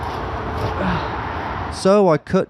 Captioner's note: grunts